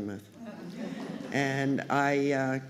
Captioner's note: laughter